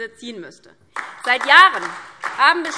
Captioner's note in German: Beifall DIE LINKE und vereinzelt SPD